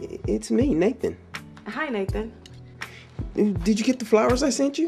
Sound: none

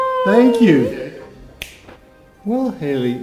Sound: snaps finger

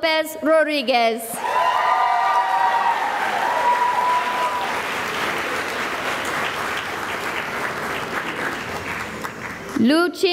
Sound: cheering and applause

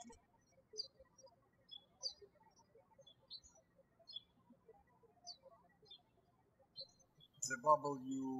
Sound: birds chirping

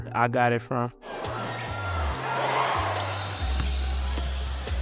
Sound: cheering; sneakers squeaking; ball bouncing

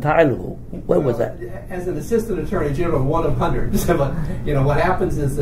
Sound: laughs

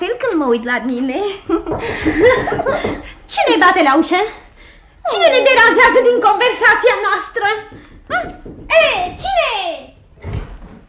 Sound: knocks on the door

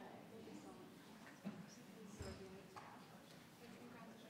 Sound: people chatter

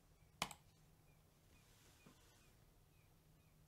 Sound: mouse clicks

